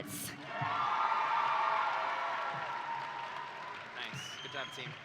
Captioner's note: audience cheering and applauding